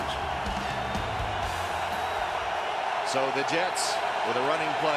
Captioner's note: cheering